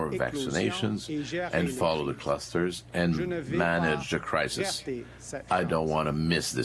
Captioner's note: speaking French